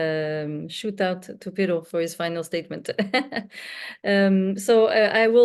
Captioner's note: chuckles